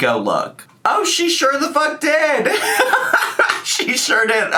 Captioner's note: laughs